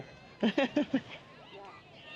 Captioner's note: laughs